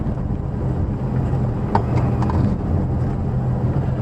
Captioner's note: engine sounds, interior rattles